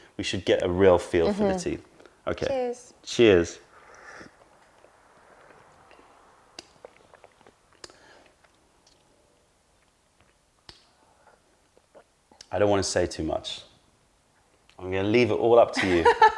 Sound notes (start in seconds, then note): 5.6 sips tea; 10.4 sips tea